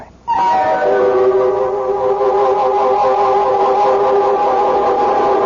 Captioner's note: humming